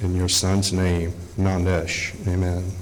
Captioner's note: speaking Algonquian